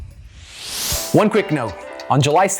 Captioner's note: title whooshes